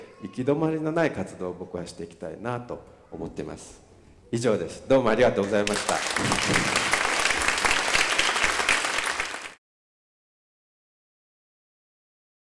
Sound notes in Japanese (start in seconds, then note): 5.4 拍手